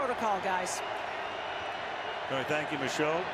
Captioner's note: cheering